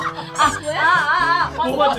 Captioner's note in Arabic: تضحكون